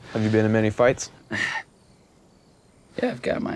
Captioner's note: Tyler laughs